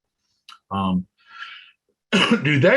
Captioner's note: coughs